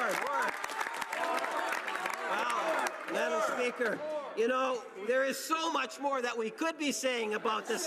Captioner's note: cheering and Applause